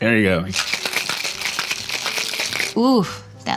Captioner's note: drink rattles